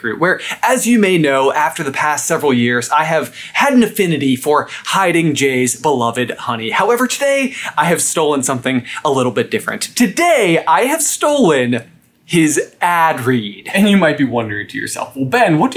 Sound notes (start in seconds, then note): none